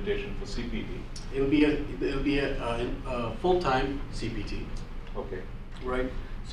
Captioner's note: voiceover